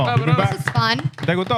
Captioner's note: speaking Spanish